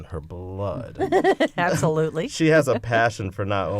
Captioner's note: laughter